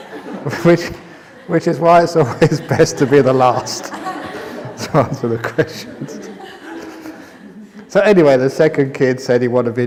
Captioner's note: laughter